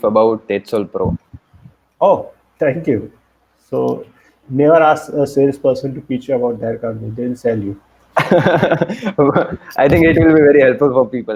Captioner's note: laughs